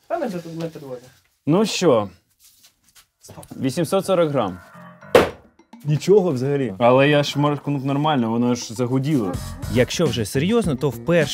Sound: bang

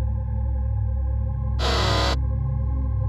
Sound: robot sound effect

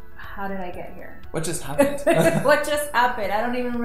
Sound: laughs

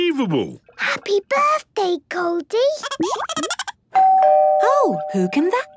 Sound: Goldie giggling; doorbell ringing

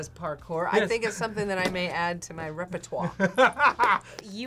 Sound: laughs

